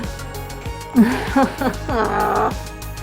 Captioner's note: frustrated noise